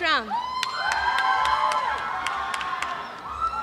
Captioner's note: cheering